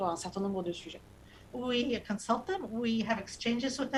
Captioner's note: speaking non-english